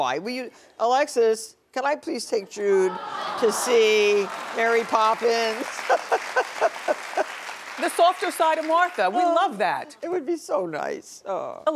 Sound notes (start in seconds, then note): 3.5 audience clapping